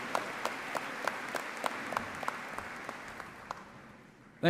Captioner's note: applause